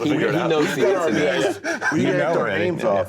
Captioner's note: people chattering